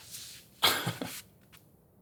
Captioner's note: laughs